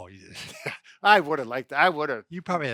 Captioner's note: chuckling